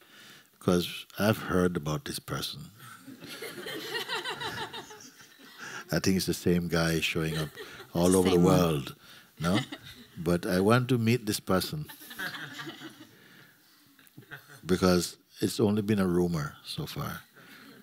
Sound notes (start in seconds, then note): 3.0 laughter; 11.8 laughter